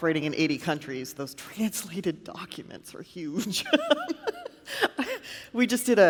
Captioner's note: laughs